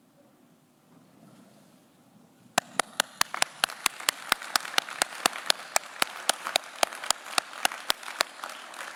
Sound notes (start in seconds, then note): 2.6 claps